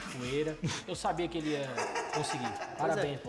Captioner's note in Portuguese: risos